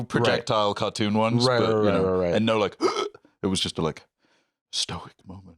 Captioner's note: gasps